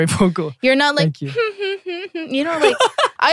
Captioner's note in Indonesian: ketawa jaim